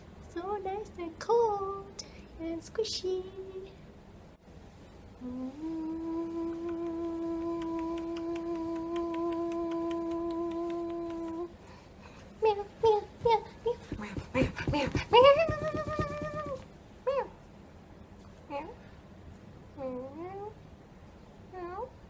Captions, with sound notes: so nice and cold and squishy (humming and clicking) (cat noises)